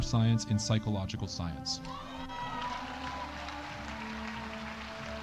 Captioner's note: audience applauding